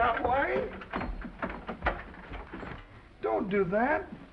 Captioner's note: door unlatching